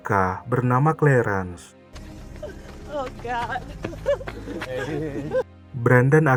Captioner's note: laughs